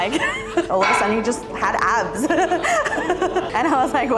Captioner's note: laughs; laughs